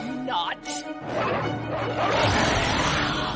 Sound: growling

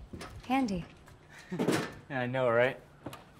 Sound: Nick laughs

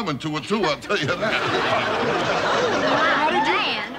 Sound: laughing

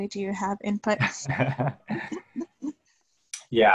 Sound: laughter

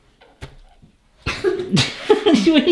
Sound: laughs

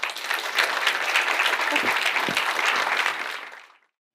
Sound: applause

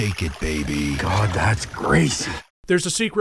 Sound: bubbles

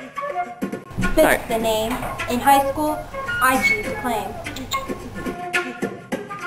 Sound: clicks teeth

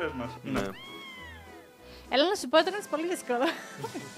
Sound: laughs

